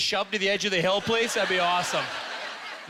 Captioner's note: audience laughter